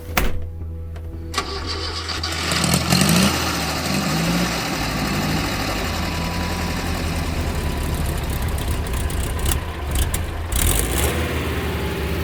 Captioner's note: starting car engine